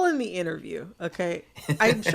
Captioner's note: laughter